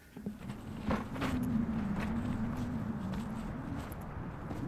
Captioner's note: footsteps on rocks